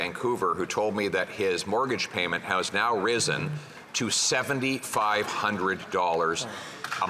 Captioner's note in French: voix de l'interprète